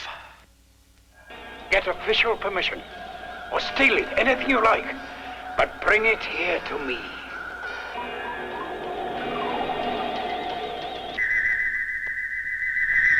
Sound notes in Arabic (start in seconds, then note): 6.0 صوت صفير الآلة; 6.0 موسيقى غريبة